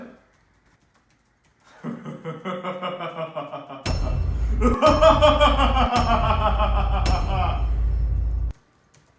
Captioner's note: maniacal laughter